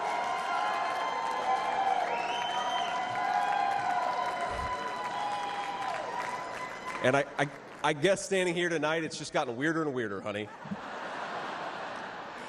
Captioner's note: cheers and applause